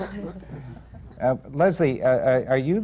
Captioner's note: laughter